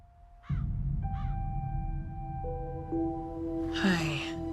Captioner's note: bird cawing